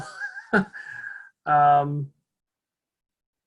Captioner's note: laughing